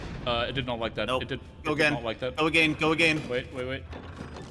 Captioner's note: another cannon shot noise; uno mas cannon shot noise